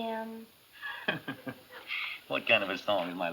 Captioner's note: chuckles